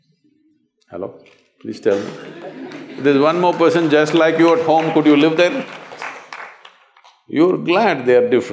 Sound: laughter/Applause

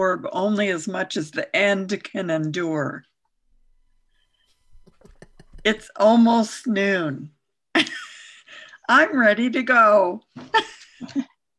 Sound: laughs

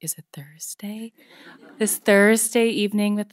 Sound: audience laughing

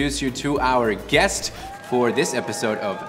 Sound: cheering

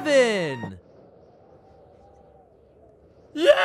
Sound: wind whistles

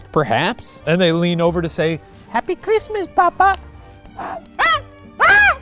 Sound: blows; screams

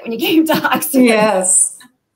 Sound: laughter

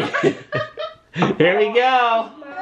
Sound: laughs

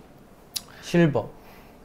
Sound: 2 second pause

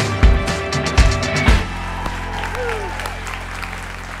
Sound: applause

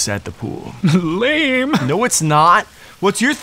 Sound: laughs

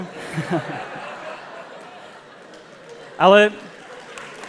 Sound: laughter; applause

